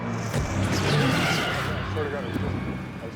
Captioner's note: roars